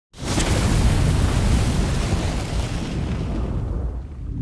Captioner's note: fire burning